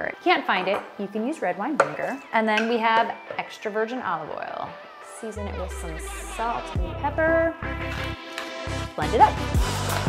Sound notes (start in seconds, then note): 7.8 grinding